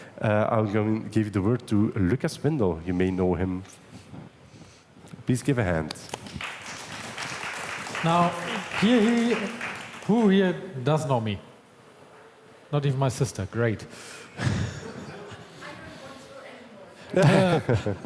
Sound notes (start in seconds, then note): 5.9 applause; 14.4 all chuckle; 17.1 all laugh